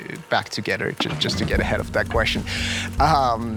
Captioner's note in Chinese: 笑聲